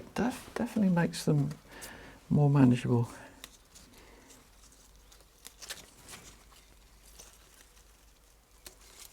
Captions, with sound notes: it definitely makes them more manageable. (leaves rustle)